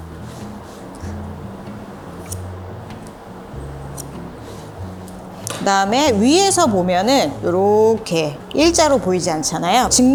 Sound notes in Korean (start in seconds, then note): 2.2 가위질 소리